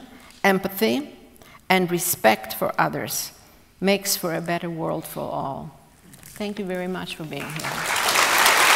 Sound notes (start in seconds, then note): 7.4 applause